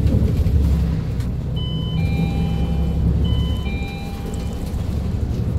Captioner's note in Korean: 하차벨 소리